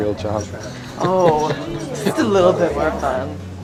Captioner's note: laughing